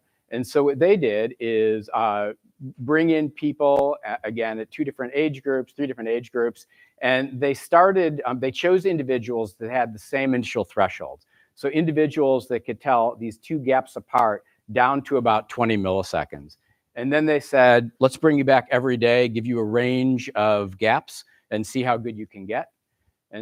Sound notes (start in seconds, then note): none